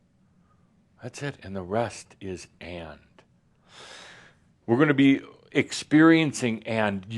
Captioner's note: none